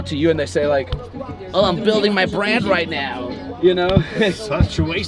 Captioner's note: laughs